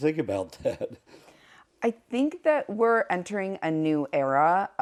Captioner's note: laugh